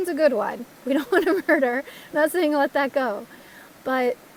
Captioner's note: laugh